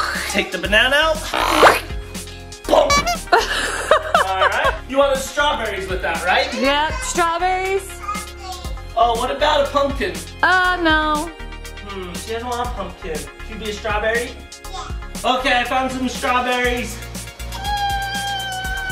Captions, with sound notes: Take the banana out. (laughing) All right, you wanted the strawberries with that right? Yeah, strawberries. - Pumpkin. - Oh, what about a pumpkin? - Oh no. - There's a lot pumpkin, could be a strawberry. - Ya. - Okay, I found some strawberries.